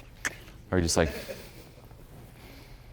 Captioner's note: sighs